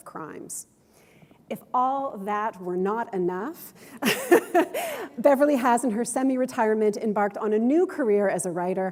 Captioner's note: chuckle